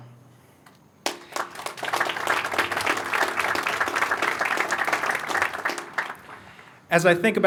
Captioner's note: applause